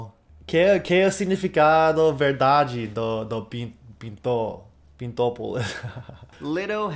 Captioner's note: laughs